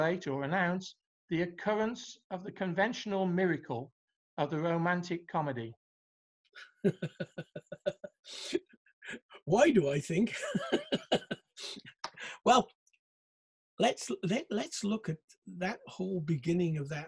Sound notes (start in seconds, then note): 6.6 laughing; 10.2 laughing